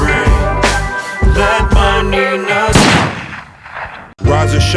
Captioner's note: gunshot